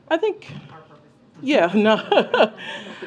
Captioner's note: laughter